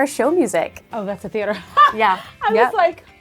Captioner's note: laughing